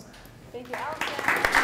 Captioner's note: applause